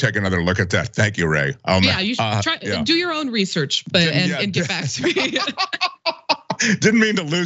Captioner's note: laugh